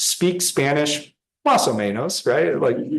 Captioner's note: speaking in foreign language